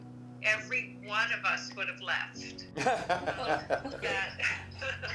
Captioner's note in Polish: śmiech